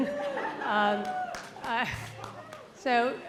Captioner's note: audience laughing